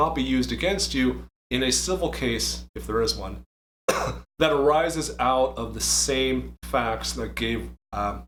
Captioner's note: cough